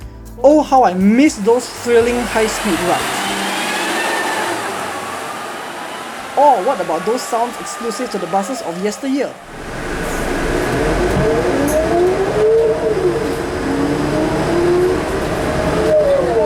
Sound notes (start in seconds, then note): 3.3 ZF Ecomat Gearbox howl; 10.5 Volvo B10M ZF accelerating